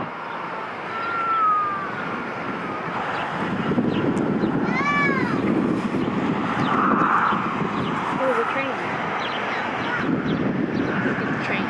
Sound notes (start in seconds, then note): 0.3 birds chirping; 0.9 baby crying; 3.3 birds chirping; 3.3 wind rumbling; 4.6 child yells; 6.0 cars rushing by on the highway; 6.0 wind rumbling; 9.6 wind rumbling